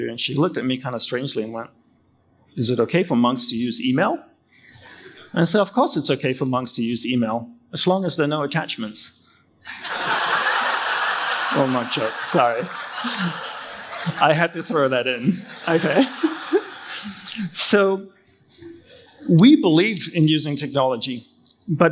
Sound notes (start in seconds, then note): 9.6 audience laugh; 15.8 laughs